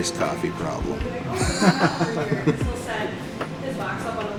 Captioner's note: laughing